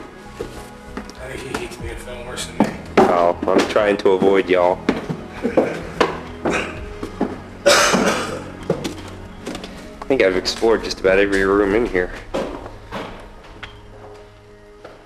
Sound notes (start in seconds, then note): 5.3 laughs